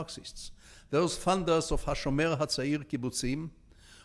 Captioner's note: speaking in foreign language